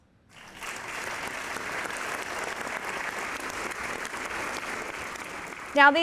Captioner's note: applause